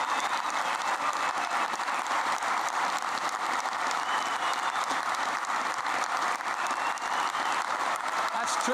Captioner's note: applause